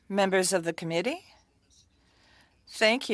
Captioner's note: speaking French